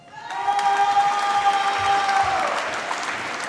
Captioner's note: applause